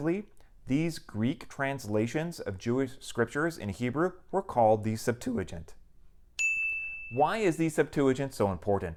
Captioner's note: chime